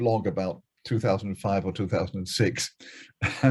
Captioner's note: laughs